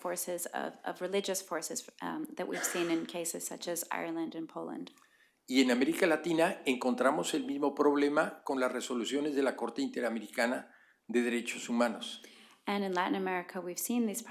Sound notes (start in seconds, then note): 6.4 spanish; 10.0 spanish